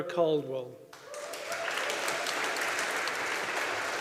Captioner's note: audience applauding